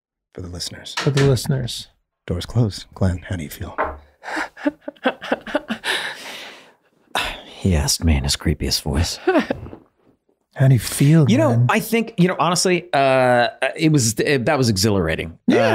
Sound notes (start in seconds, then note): 4.2 laughing; 7.1 Glenn sighs; 9.2 laughing